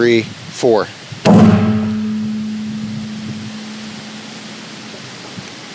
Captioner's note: tree knocker bangs; metal ringing; wind gusting